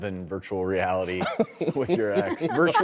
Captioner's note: pannel laughs